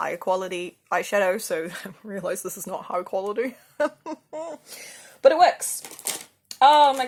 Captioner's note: laughs